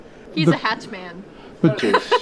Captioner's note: laughter